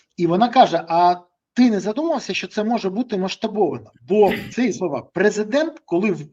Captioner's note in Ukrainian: прочищення горла